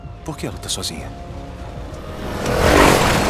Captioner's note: vehicle approaching